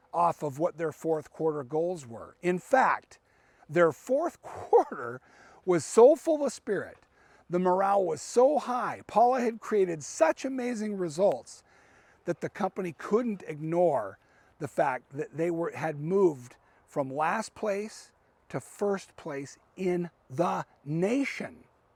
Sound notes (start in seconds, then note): 4.4 laughing